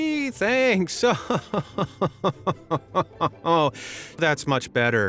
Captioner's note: chuckles sarcastically